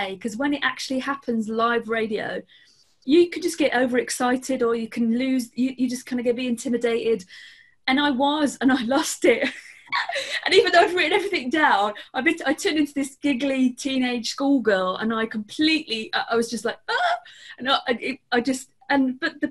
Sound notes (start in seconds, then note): 9.9 laughs